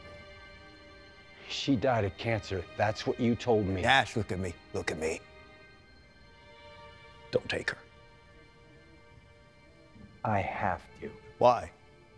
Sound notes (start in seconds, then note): none